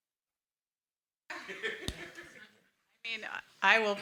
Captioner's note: everyone laughs